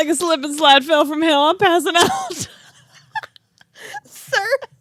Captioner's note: laugh